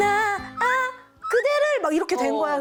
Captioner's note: aaah